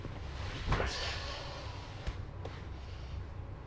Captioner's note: grunts in exhaustion